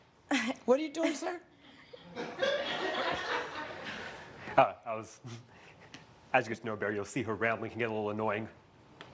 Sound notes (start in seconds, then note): 2.0 audience laughs